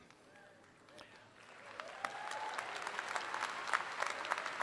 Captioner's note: audience applauds